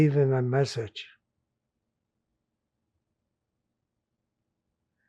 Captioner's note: pauses 6 seconds